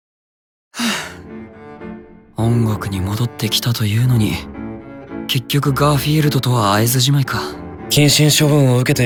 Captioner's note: sigh